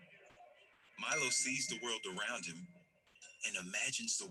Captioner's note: voiceover